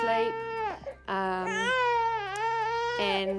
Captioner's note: cries